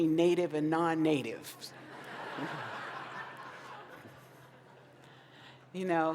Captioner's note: laughter